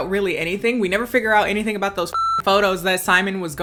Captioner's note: beep